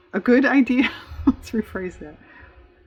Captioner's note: laughs